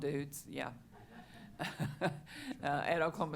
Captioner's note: chuckling